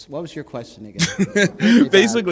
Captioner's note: chuckle